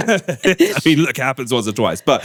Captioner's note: laughing